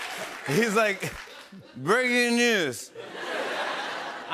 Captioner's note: laughs; slurring